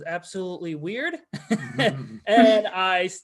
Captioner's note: all laugh